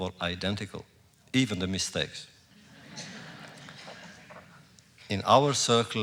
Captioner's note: laughter